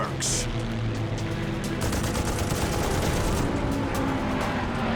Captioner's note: gunfire